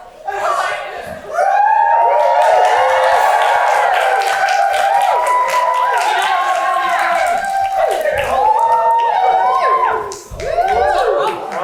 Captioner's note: audience cheers